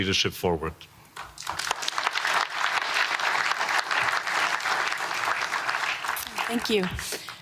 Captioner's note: applause